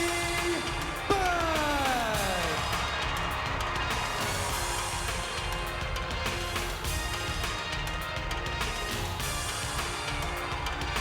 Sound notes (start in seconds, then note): 2.5 audience cheers; 5.2 upbeat music continues